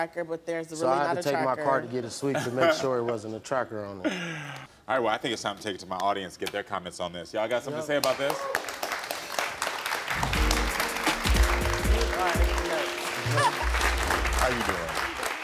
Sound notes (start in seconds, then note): 8.0 audience applauds; 10.1 upbeat music